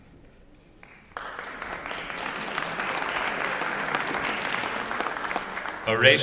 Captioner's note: applause